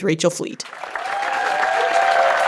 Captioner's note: applause